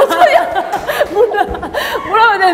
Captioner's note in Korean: 찐 웃음 터짐